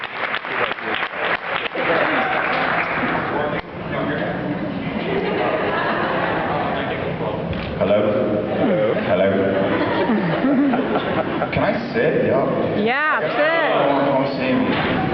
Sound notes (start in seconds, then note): 0.0 cheers, applauds; 0.0 applauds; 9.5 laughs